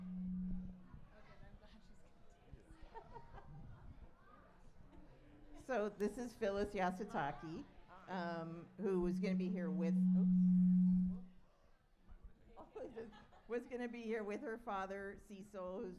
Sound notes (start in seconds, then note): 2.9 laughs; 10.1 mic feedback